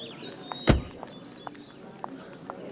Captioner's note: Car door closes